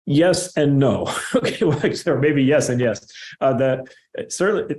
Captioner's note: laughter